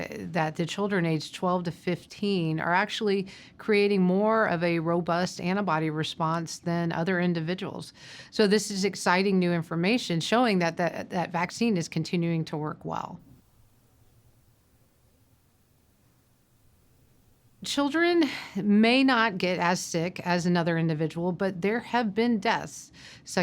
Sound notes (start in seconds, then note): 13.2 silence